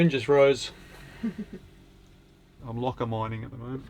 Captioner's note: chuckling